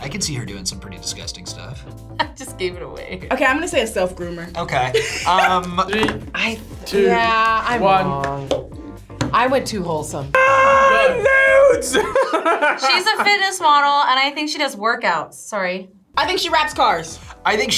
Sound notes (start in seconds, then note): 4.9 laughs; 10.3 yells; 11.5 laughs